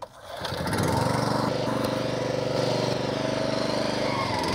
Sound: lawn mower running

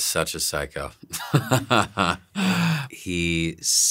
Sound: laughs

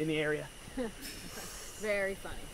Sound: chuckling

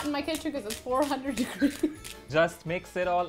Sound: laughs

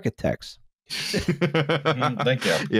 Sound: laughter

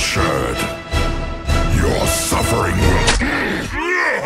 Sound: grunts

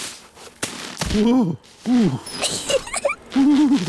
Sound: groans; giggles

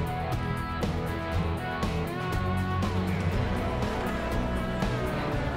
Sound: people chattering

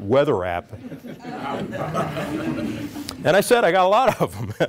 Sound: chuckling

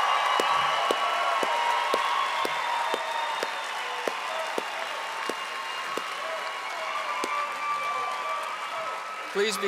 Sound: audience applauding and cheering

